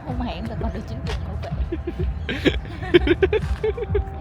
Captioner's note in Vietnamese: tiếng cười